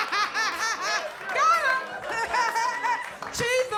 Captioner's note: audience laughs; laughs